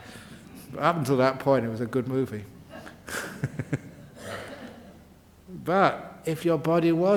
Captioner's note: chuckles